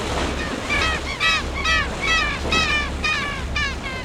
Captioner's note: seabirds calling